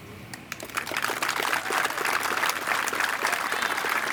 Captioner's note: applause